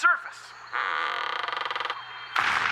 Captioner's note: creaks